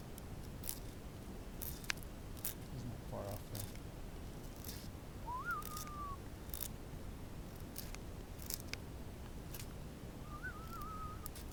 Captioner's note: whistle